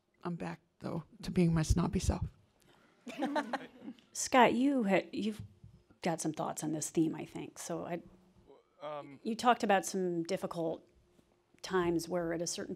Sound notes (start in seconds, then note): 3.0 laughter